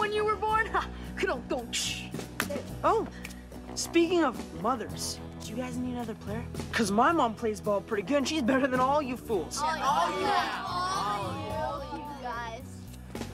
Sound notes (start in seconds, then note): 1.3 imitates Rim Shot; 9.6 chattering